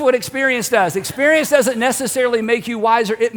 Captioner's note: congregation laughs